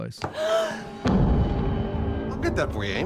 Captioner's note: gasp